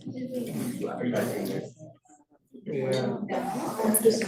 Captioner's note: students chattering